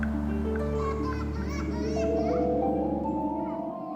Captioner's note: child laughing; dramatic music continues